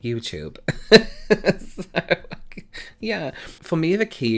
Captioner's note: laughs